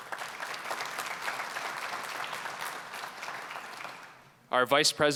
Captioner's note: applause